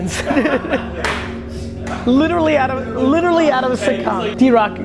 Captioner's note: laughs